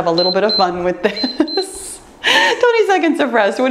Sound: timer beeps

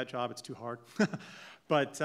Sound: laughing

